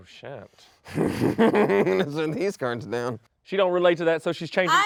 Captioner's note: laughs